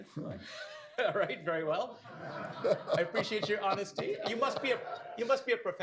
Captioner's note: laughter